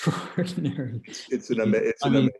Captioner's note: laughing